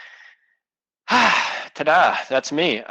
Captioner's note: sighs